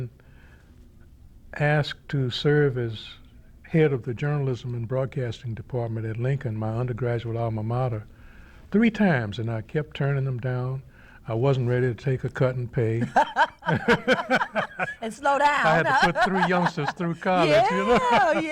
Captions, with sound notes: I had been asked to serve as head of the Journalism and Broadcasting Department at Lincoln, my undergraduate Alma Mater, three times and I kept turning them down. I wasn't ready to take a cut in pay (laughter) and slow down. I had to put three youngster through college.